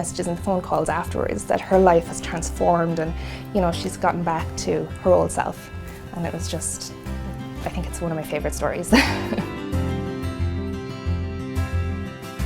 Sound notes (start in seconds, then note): 8.9 laughs